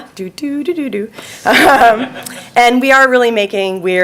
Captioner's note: laughing